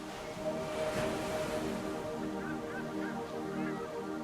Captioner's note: seagulls mewing